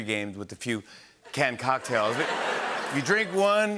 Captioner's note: laughter